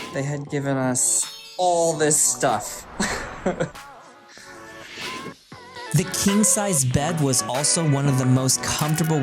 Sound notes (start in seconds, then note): 2.8 laughing happily